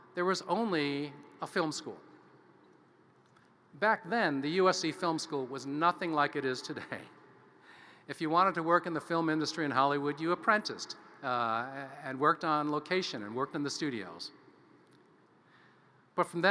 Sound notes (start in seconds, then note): none